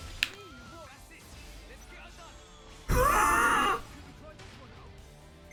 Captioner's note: screams